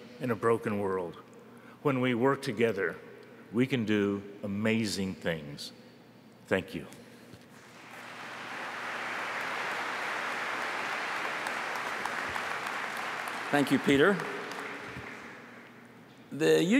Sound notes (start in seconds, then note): 11.3 applause